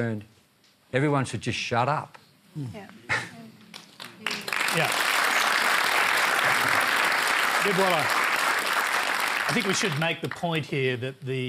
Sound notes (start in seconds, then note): 3.7 applause